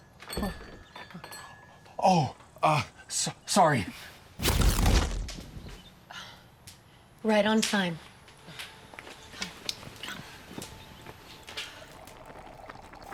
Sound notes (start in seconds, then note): 0.3 stuttering; 4.4 zapping; 6.0 exhales; 10.8 soft music